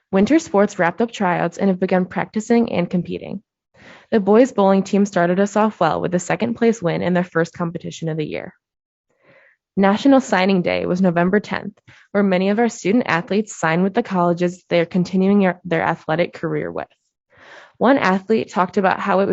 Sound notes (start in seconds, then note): none